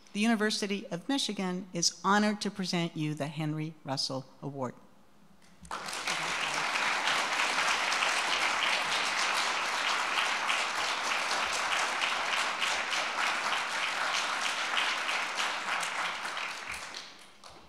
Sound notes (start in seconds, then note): 5.7 audience applauding